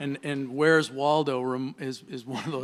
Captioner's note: laughter